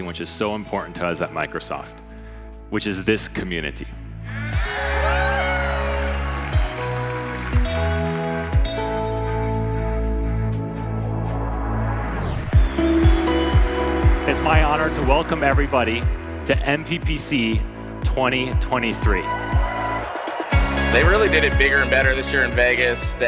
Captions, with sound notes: which is so important to us at Microsoft, which is this community. (audience cheering) (audience applauding) (gentle music) (lively music) It's my honor to welcome everybody to MPPC 2023. They really did it bigger and better this year in Vegas.